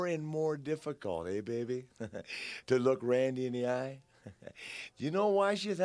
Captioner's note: laughs